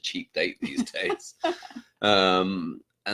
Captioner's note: laughing